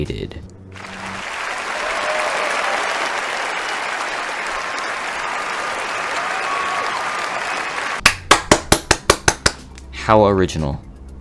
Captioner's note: clapping